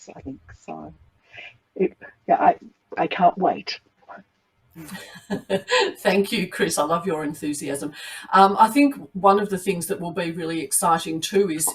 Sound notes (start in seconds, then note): 4.8 women laughing